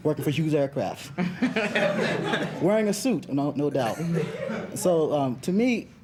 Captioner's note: students chuckling